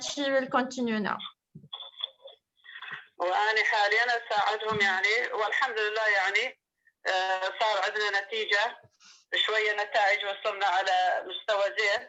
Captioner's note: speaking in another language/ Interpretation